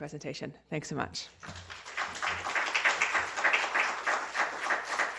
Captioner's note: applause